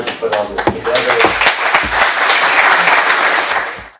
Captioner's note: applause